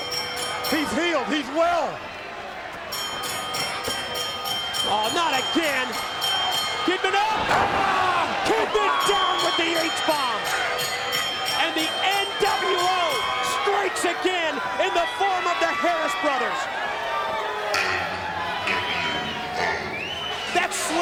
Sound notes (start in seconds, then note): 2.9 bell ringing